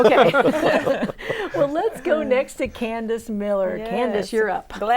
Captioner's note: laughing